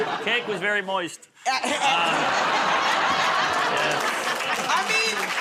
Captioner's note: laughter